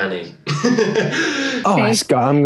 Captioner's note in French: rire